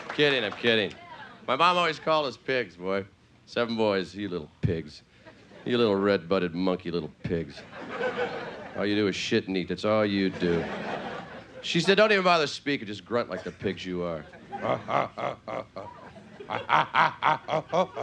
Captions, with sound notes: I'm kidding, I'm kidding. My mom always called us pigs, boy. Seven boys, you little pigs. You little red butted monkey little pigs. (audience laughing) All you do is shit and eat, that's all you do. (audience laughing) She said don't even bother speaking, just grunt like the pigs you are. (playful grunting)